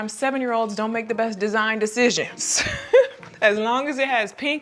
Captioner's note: laughing